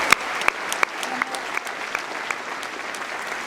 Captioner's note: applause